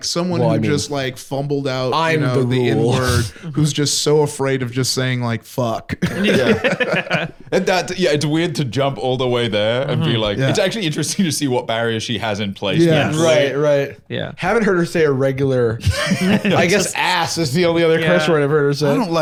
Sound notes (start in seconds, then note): 6.0 all laughing